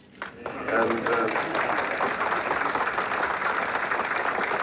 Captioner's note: crowd applauds